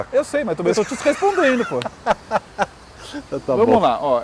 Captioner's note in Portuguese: risos